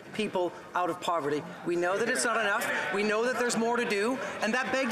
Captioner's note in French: voix de l'interprète